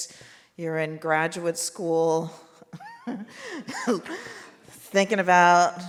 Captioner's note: laughs